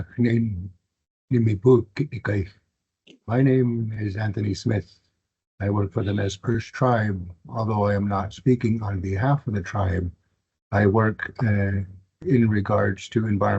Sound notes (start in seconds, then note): 3.3 foreign Language